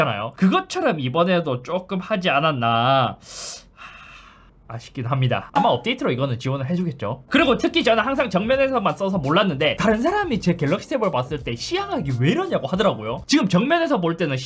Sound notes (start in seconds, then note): 3.2 breathing out; 3.2 breathing in